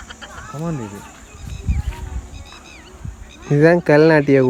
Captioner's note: birds chirping